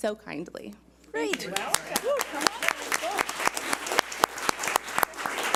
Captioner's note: audience applauds